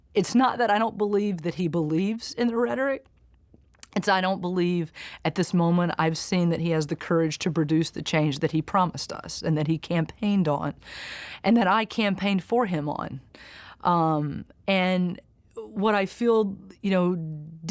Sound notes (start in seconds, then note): none